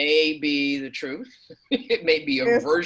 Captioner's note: chuckles